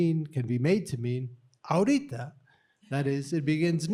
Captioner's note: speaking spanish